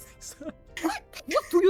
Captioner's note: laughs